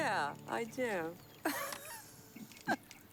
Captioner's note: laughs